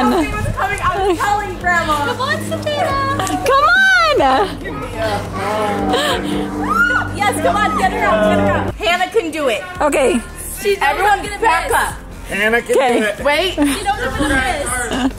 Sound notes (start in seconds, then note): 6.0 laughing; 6.9 excited screaming